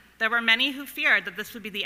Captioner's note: none